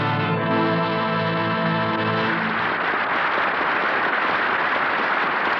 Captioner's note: applause